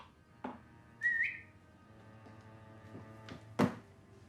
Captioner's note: whistling